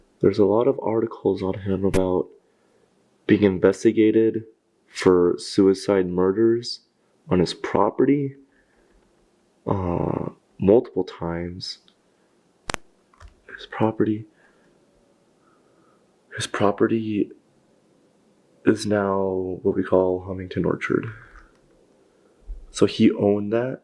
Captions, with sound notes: There's a lot of articles on him about being investigated for suicide murders on his property multiple times. (static crackles) His property, his property is now what we call Hemington Orchard, so he owned that.